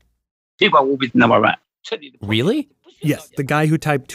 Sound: speaking Mandarin

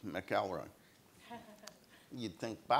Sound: audience laughs

